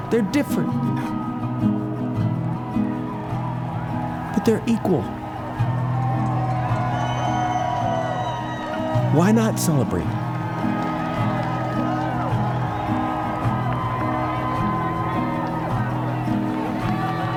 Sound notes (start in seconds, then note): 4.9 crowd cheering